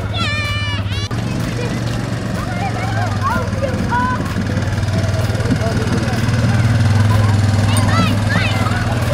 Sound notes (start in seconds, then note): 1.2 engine running